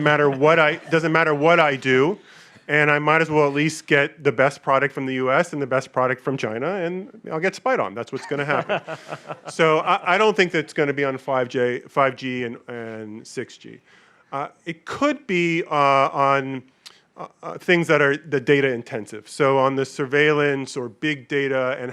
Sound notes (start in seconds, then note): 0.0 audience laughing; 8.1 panelists laughing